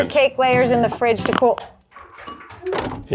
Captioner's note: phone disconnecting